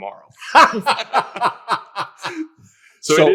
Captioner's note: all laughing